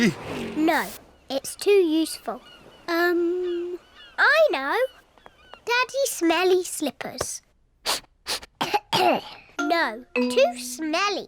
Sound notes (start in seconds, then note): 7.8 sniffs and coughs